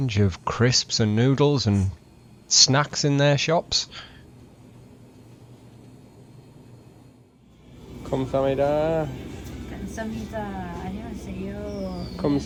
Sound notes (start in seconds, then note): 7.9 speaking Korean; 12.3 speaking Korean